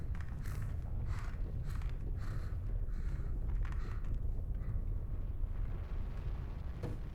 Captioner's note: heavy breathing